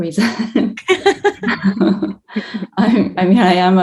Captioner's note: both chuckling